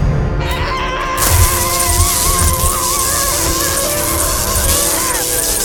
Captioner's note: Jack screams, electricity crackles